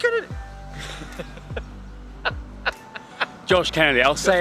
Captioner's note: laughter